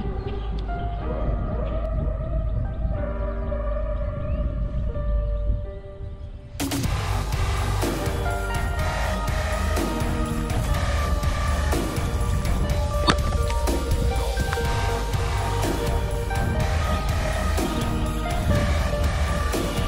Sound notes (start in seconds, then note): 2.5 wind blowing; 6.7 intense techno music